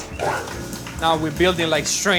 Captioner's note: mixer whooshes